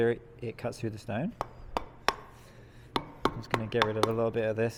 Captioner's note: metal hammering